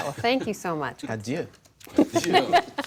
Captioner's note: laughter